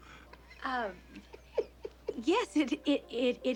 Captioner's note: chuckles